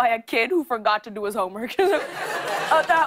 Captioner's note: laughter